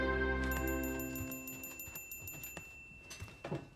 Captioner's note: text chiming